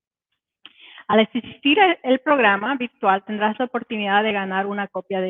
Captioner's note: speaking Spanish